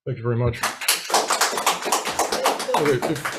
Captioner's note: audience applauds